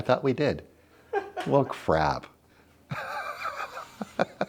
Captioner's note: laughs